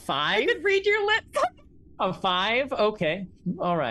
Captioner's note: laughs